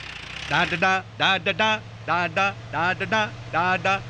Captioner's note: humming